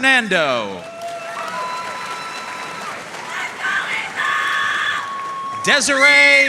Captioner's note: audience cheering and applauding